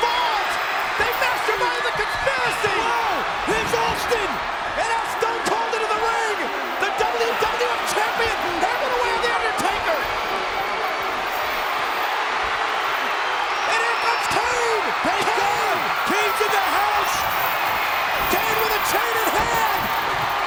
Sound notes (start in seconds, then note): 10.5 crowd cheering; 14.0 overlapping chatter